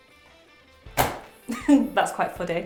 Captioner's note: papers thud onto table